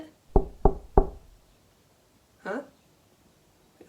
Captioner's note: knock on the door